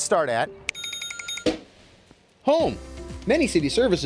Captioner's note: alarm ringing